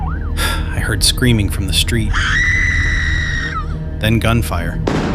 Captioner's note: screaming